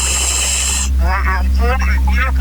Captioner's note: oxygen pipe whirling